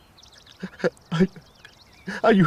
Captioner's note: stammers